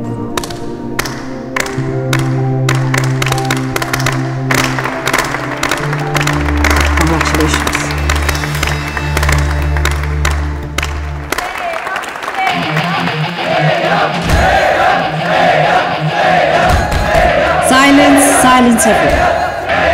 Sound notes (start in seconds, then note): 0.5 Clapping; 2.8 All students joins in clapping